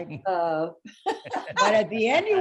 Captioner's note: laughing